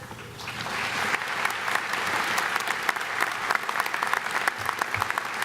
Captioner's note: everyone clapping